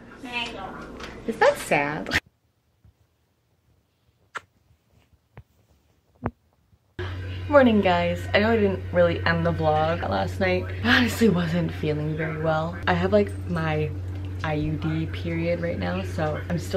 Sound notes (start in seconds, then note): 4.3 kissing sound